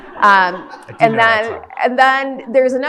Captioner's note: audience laughs